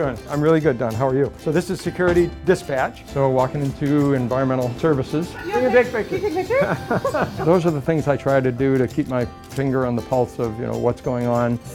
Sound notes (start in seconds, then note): 5.3 laughs